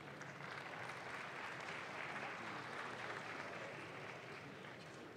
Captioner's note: audience claps